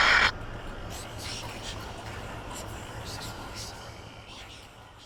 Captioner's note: voices whispering